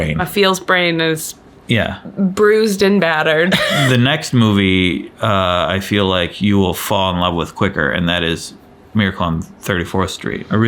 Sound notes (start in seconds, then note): 3.5 laughs